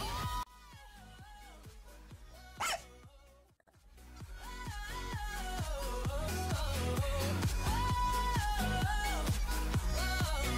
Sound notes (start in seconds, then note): 2.6 cute bark